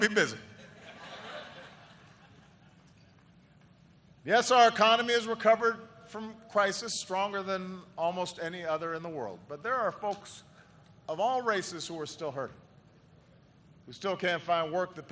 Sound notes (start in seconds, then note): 3.4 laughter